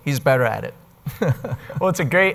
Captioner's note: guest laughing